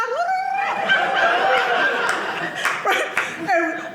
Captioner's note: audience laughing